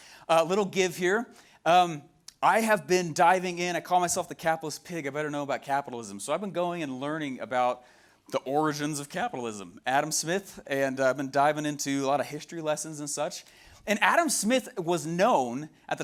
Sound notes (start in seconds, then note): none